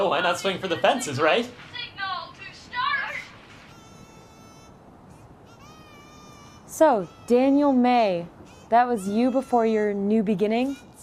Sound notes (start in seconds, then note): 1.8 child's voice; 3.6 kazoo